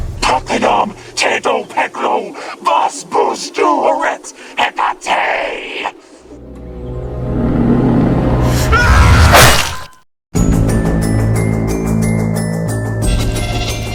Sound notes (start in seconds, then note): 0.2 speaking in foreign language; 8.5 Abram screaming; 10.4 dramatic music